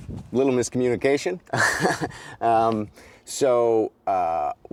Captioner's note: chuckles